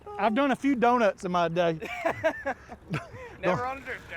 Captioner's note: laughs